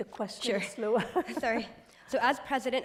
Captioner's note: laughs